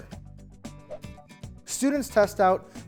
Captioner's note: screen whooshing